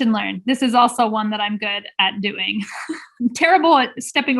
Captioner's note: chuckling